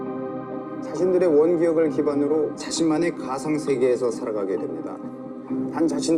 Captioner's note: speaking in foreign language